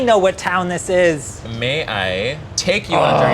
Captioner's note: groaning